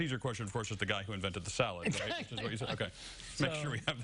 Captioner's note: laughter